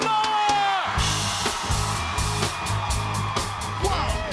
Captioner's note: cheers and applause